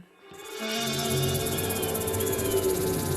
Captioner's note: vultures screaming